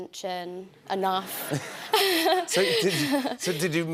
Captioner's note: laughter